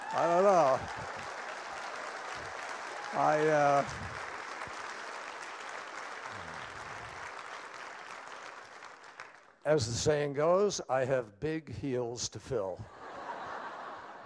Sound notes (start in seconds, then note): 6.5 applause